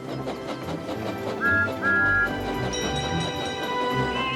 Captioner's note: whistles